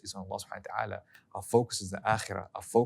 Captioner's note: speaking foreign language